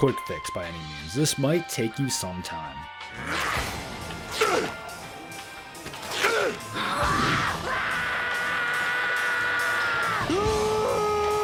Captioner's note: scream of Despair